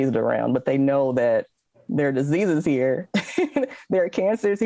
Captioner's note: laughs